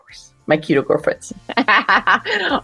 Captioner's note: laughter